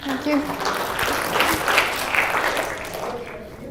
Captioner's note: students applaud